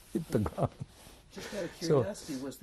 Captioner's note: laughs